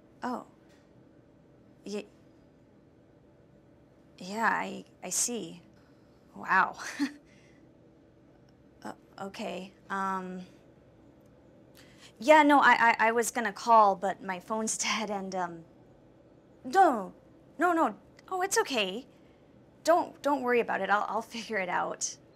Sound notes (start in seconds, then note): 7.1 chuckles